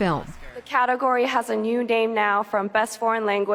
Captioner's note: through translator